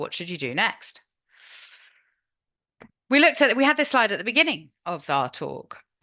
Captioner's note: inhales